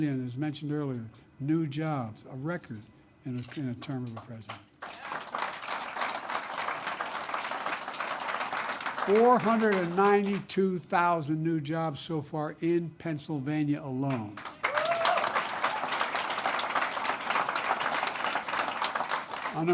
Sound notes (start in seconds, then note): 7.7 applause; 14.1 applause